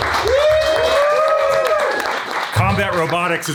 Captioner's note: everyone cheering and applauding